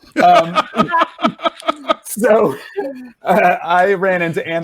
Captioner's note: laughing